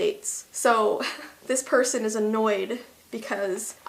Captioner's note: chuckle